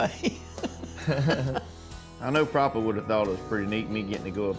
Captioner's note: laughing